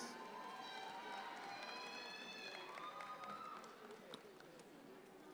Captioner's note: audience cheering